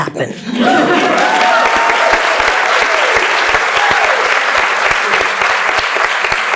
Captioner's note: laughs and Cheers; applauds